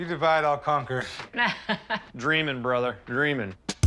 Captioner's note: laughs; groovy rock music